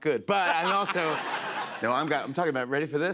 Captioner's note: laughter